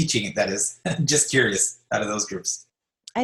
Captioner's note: laugh